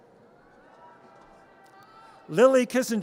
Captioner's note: audience cheers